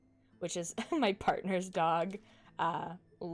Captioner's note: chuckles